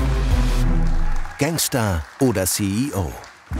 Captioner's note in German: Spannungsvolle Musik; Applaus